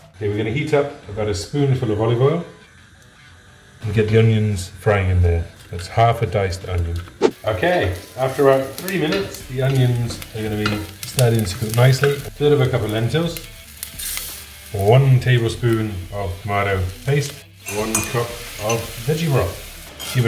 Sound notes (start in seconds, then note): 7.1 whooshing; 13.7 lentils click into pot; 19.4 sizzling